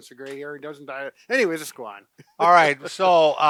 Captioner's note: chuckling